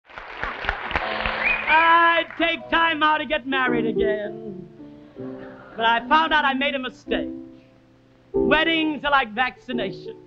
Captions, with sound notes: [audience applauding] [piano begins] - I'd take time out to get married again, but I found out I made a mistake. Weddings are like vaccination.